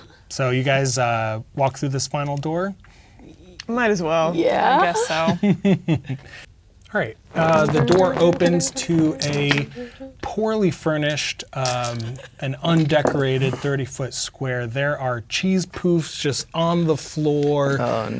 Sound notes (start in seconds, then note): 4.8 chuckling; 10.5 humming indistinctly; 11.9 laughing